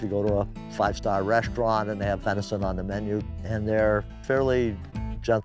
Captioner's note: none